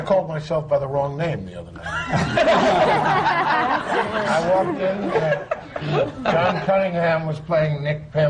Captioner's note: laughter